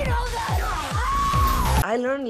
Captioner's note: Salma screams